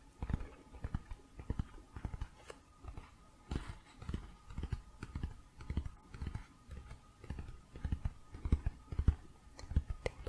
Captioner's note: tapping on pages